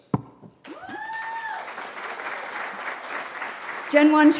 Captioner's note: cheering